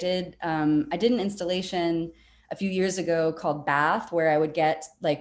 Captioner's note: none